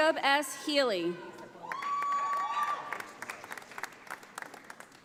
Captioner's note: audience applauding